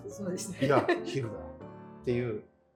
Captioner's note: laughing